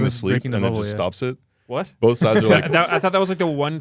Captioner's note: laughs